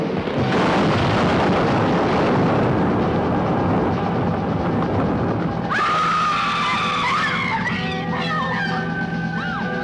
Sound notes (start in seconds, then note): 0.4 train crashing; 5.7 women screaming